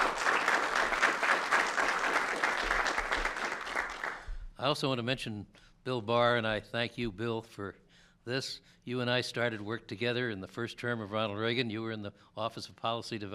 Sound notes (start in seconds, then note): 3.6 applause